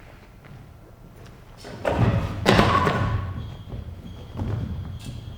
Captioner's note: knocks into table and candles clunk to the floor